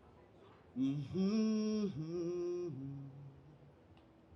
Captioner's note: humming